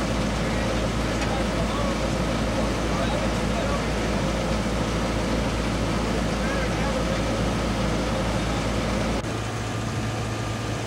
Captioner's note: indistinct chatter